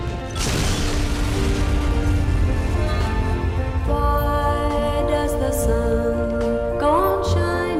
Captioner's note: explosion